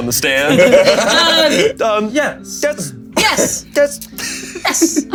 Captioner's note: players laughing